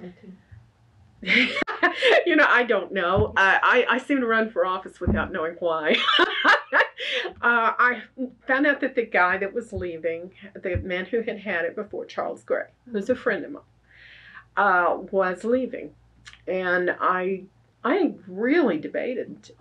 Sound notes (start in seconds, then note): 5.9 laughs